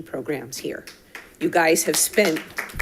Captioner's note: audience applauding